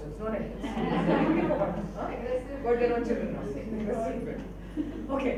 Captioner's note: audience laughs